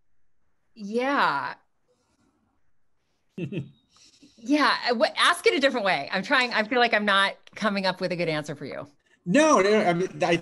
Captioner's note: laughs